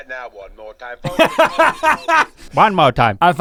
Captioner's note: Rhett laughs excitedly